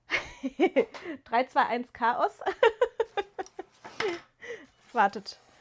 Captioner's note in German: gelächter